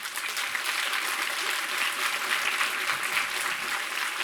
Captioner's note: applause